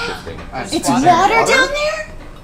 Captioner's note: gasps